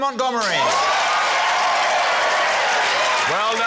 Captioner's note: cheering, applause